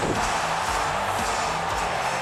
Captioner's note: crowd cheering; canvas thuds